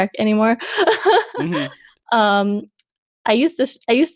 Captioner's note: laughs